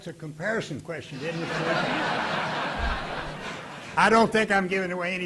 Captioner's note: audience laughing